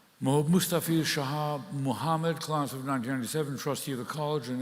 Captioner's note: speaking in Latin